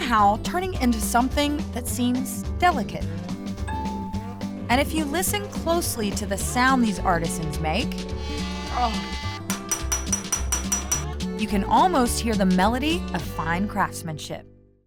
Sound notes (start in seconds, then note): 8.2 grinding; 9.5 tapping